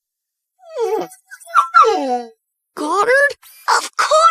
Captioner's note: whimpering